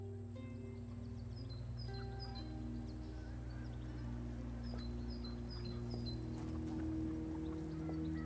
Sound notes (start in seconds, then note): 1.6 birds chirping; 1.6 gentle melodic music